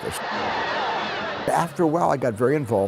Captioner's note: crowd cheering